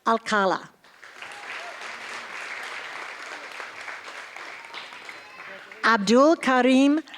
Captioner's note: applause